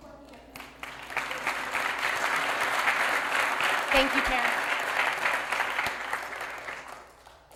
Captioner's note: applause